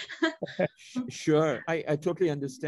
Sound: chuckles; giggles

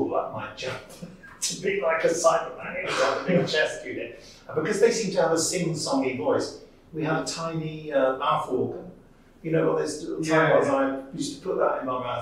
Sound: Cyberman Noises

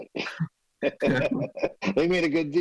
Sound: laughs

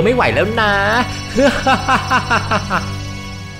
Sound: intense laugh

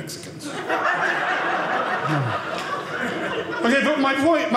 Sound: audience laughing

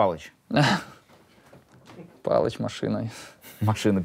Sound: laughs

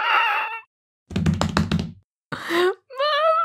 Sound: running down stairs

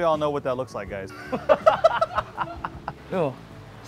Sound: laughs

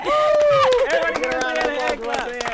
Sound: applause

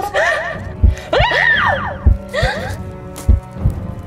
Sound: scream

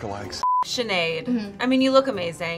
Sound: beeping

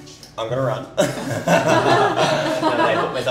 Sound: chuckles

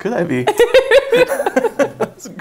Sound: laughs

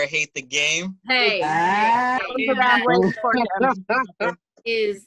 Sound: laughter

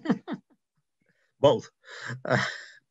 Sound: laughs

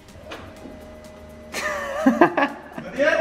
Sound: camera man chuckles

